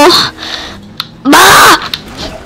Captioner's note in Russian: добрый крик